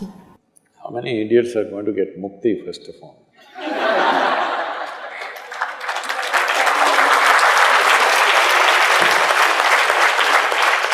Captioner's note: laughter/Applause